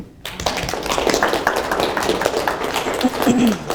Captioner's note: class applauds